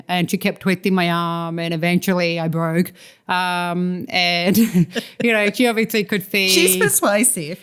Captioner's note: laughter